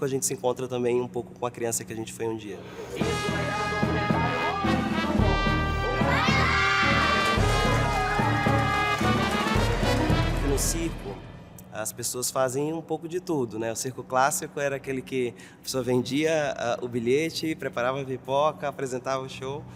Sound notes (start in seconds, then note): 3.0 funny instrumental music; 5.7 children scream excitedly